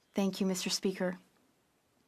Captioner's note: speaking French